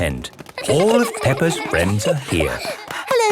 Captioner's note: excited babbling